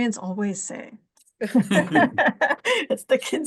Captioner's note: laughter